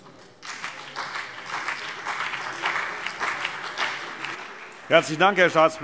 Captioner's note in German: Beifall CDU und BÜNDNIS 90/DIE GRÜNEN